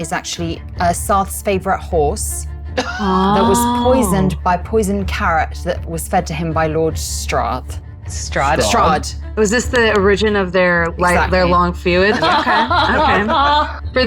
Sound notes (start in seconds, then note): 2.8 chuckling; 12.0 laughing